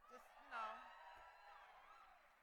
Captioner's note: cheering